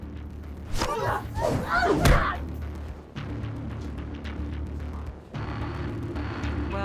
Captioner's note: grunting; smacking